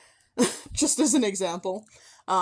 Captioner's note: chuckle